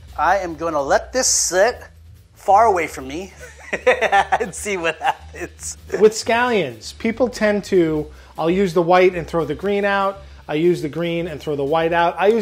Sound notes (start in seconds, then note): 3.3 laughs